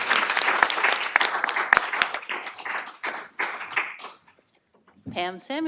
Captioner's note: applause